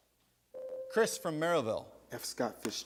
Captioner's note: buzzer sounds